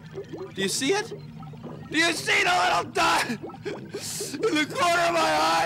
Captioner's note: voice breaking